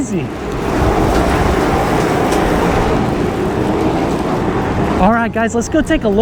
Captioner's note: machine whirring